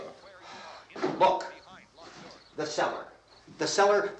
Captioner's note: sighs